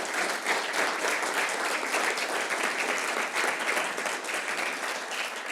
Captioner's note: applause